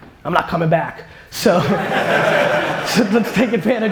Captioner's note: audience laughter